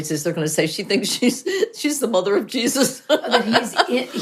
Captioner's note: laughs